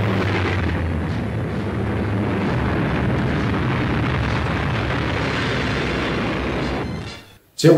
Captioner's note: sound of airplanes